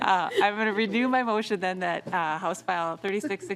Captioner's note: laughing